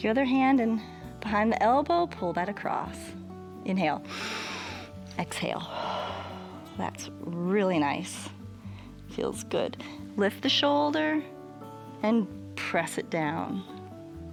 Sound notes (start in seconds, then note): 5.6 exhales; 5.6 inhales